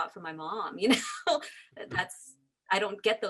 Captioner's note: laughs